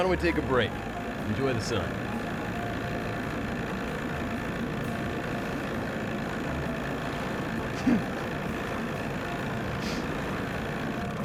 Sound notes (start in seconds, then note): 2.3 engine purring; 7.8 giggles; 11.0 engine slows, sputters